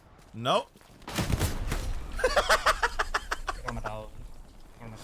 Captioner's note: laughs